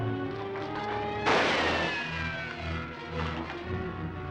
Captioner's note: gun fires; suspenseful music